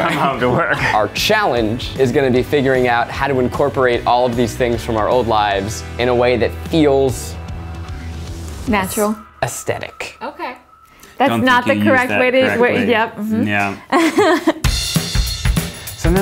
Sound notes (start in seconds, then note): 13.6 laughing; 14.5 upbeat music